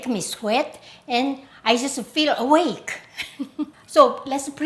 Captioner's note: laughs